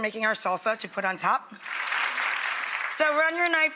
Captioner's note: audience applauding